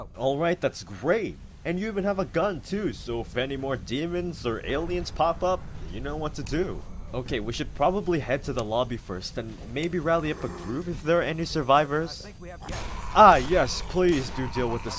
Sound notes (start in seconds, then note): 10.1 zombie groans; 12.6 gunfire, zombie snarls